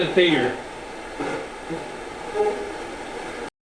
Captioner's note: static sound